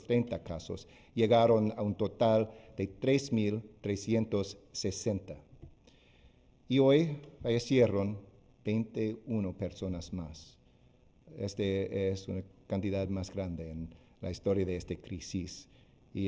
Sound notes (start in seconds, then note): 2.4 speaking spanish